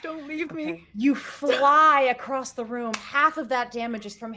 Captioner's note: palms slapping